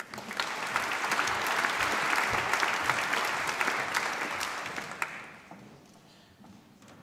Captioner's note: applause